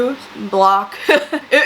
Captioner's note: laughs